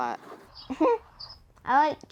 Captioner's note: laughter